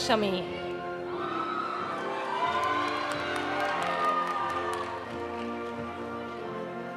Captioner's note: audience cheering; audience applauding